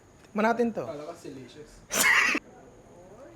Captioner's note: laughs